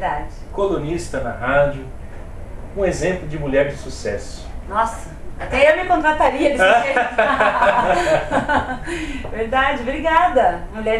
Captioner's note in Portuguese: risos